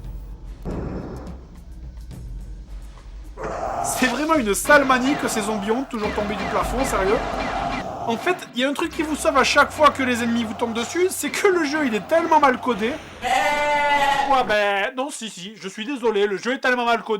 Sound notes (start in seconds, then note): 13.0 goat screaming